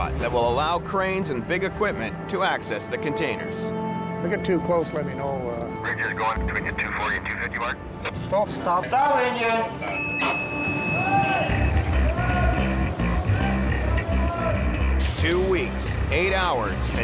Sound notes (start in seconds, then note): 5.4 man Over Radio; 9.9 machine beeps